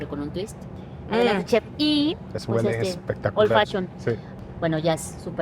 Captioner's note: speaks Spanish